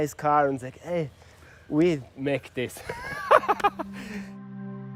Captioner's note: laughing